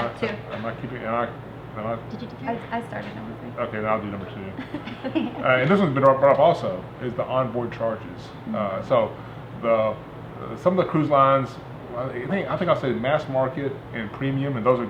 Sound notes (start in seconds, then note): 4.6 laughing